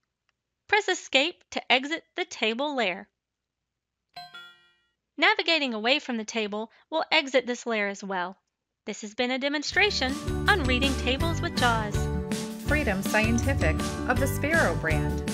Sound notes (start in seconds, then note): 4.2 chime sound; 14.6 outro music